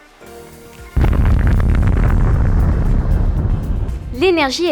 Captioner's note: explosion sounds